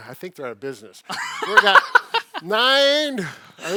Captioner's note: chuckling